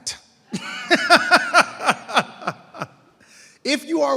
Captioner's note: laughing